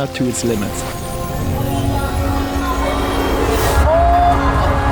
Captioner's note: nature sounds